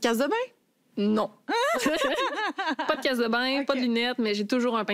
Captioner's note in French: rires